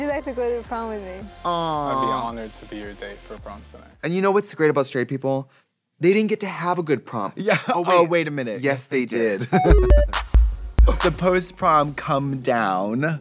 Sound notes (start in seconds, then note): 7.7 laughing; 9.6 musical flourish